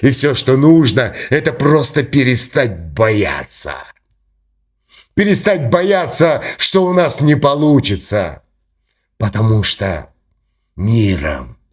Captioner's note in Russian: фыркает